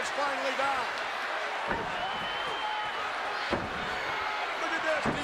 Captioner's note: applause